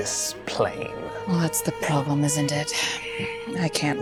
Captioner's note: sighing